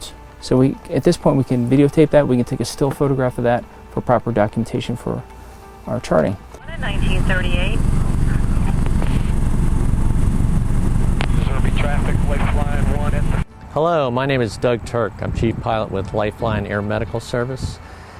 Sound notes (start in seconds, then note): 8.8 radio communications